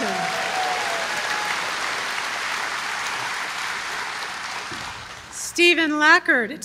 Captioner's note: applause